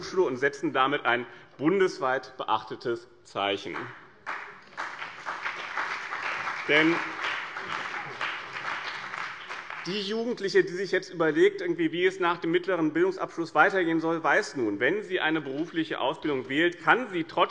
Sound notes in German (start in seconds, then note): 3.7 Beifall bei dem BÜNDNIS 90/DIE GRÜNEN und der CDU